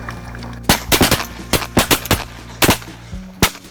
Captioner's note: gun fires